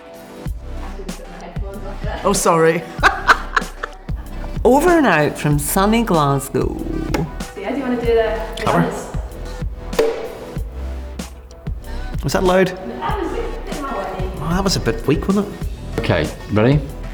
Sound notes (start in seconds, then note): 2.8 laughs; 10.0 soft closing of clapper board